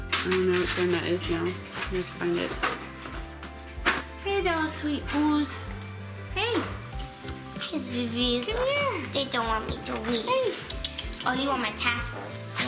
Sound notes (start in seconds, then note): 10.6 mouth clicking